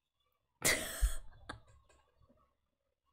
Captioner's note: laughs